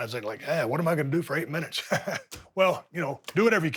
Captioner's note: laughs